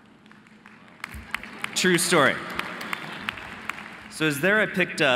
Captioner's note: audience lightly clapping